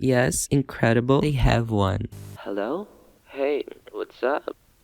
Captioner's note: sounding tired